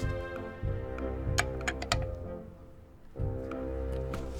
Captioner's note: wrench snuggles into place